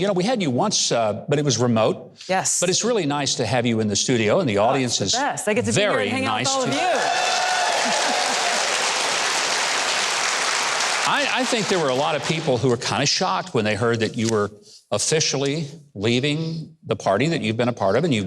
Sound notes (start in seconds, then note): 6.5 audience cheering; 6.6 audience applauding